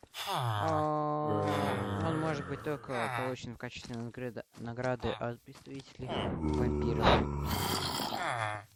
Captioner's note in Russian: стон